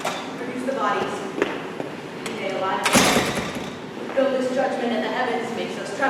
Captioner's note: door opens offscreen